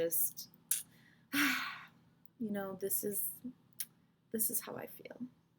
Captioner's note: sigh